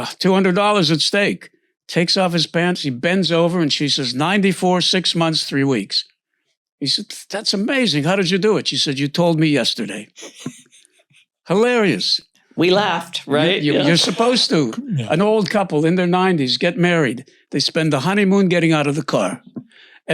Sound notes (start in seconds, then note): 10.2 laughs